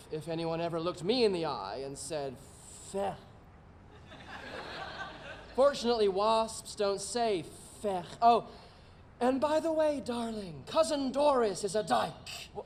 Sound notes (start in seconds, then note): 3.9 audience laughing